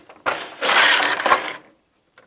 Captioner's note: noise of shuttle moving